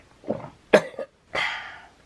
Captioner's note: coughing